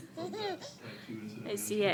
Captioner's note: laughing